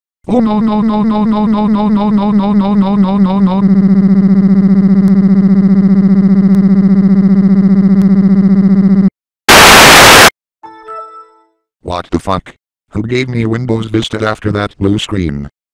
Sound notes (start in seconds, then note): 9.5 glitches; 9.5 tv static